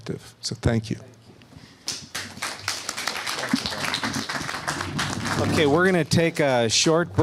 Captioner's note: applause